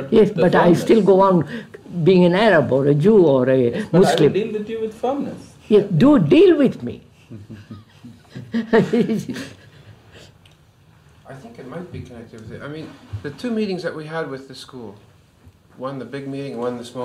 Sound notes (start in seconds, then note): 10.1 laughs